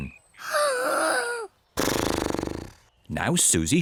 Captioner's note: inhales and snorts